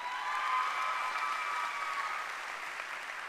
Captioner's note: applause